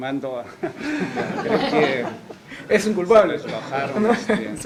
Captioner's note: risas